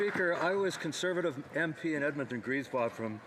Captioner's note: applause